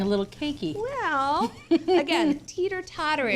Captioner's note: laughs